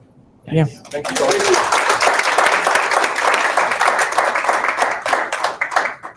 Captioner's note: audience applauds